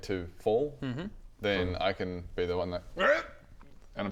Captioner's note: hrrgh